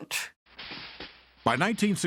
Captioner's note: gun shots